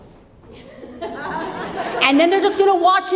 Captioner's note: audience laughs